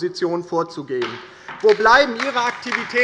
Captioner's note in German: Beifall bei der LINKEN